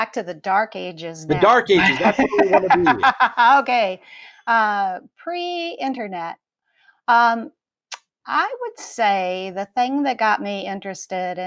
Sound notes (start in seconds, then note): 1.4 faint talking over laughing